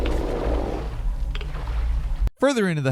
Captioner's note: monster groaning; water splashing